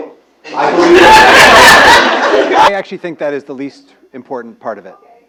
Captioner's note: laugh